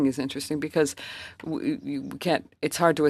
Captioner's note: speaking French